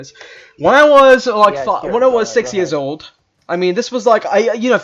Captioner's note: speaking gibberish in the background